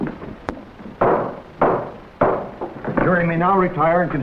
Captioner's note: gavel rapping on desk